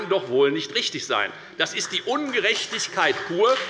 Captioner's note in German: Beifall bei der FDP